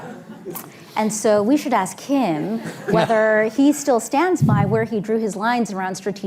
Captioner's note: laughter; laughter